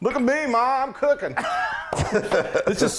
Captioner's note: laughing